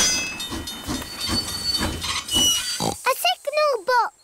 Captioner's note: tinging; oinks